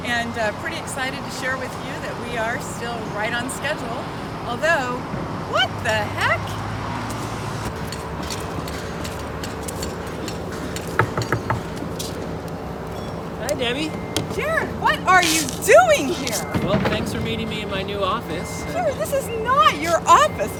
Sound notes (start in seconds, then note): 10.8 knocking